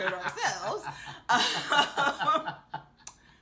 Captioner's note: laughing